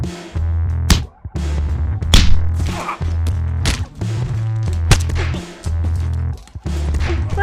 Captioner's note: sounds of a fight